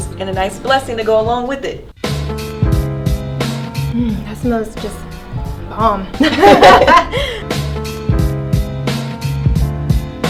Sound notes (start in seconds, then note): 6.1 both laughing